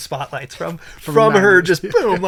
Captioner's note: laughs